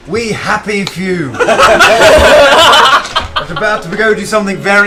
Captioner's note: laughter